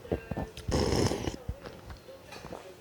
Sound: slurps

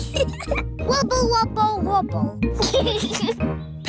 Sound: giggles

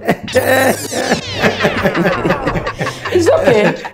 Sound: all laughing

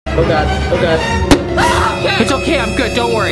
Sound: screaming

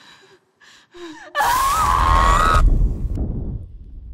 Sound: heavy breathing; scream

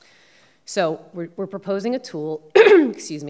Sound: throat clearing

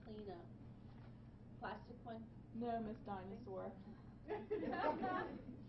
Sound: laughing

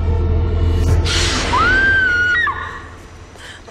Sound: screams

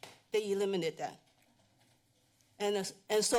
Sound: pause

